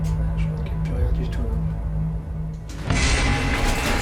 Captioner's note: tense music; speaks French